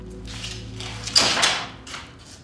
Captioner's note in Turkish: kapı açılır